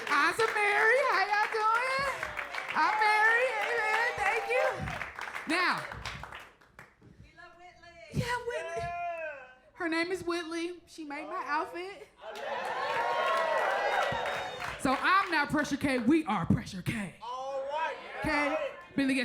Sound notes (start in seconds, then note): 4.7 crowd applause continues; 12.2 crowd cheers; 12.2 crowd applauds